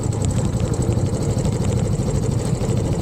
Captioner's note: motorbike engine